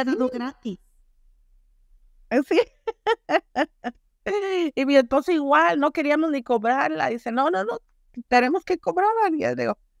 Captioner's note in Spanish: Risas